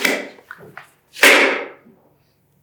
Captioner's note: loud clapper bang